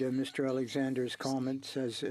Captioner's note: speaking French